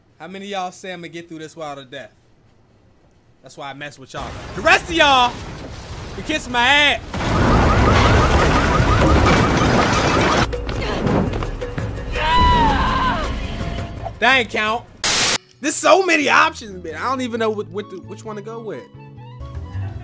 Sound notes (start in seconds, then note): 7.1 sirens; 12.1 woman screams